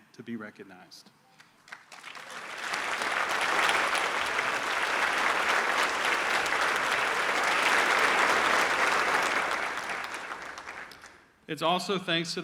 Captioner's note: applause